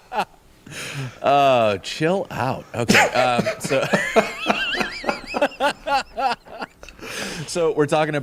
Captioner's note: laughter